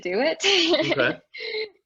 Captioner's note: laughing